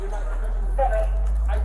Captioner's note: radio chatter